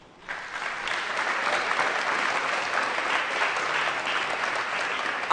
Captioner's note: applause